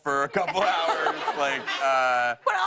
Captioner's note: laughter